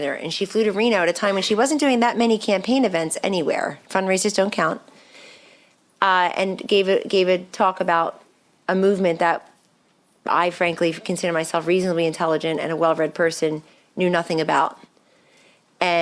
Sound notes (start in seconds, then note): none